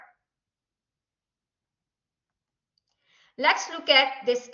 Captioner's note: silence